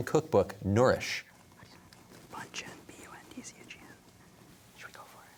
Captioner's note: whispering